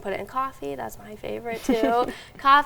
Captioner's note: chuckling